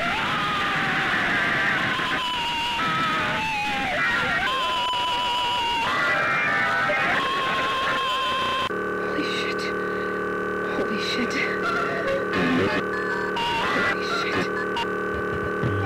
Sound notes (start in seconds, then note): 0.0 distorted abrasive screaming; 9.8 distorted humming